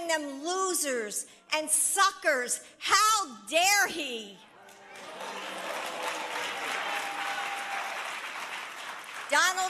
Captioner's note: applause